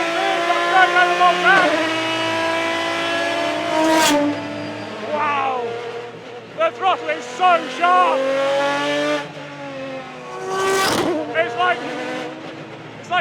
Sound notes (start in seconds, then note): 2.2 engine roaring